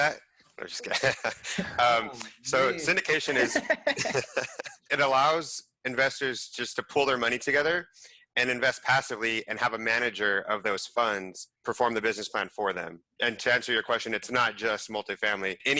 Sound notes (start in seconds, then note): 3.4 laughing